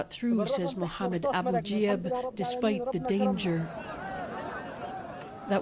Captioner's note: speaking alternate language